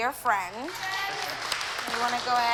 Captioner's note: applause